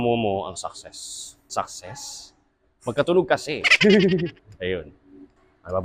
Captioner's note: laughs